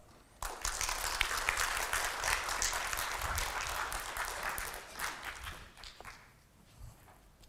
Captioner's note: applause